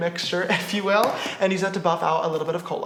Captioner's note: chuckles